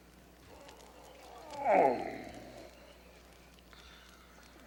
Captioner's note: Lassiter groans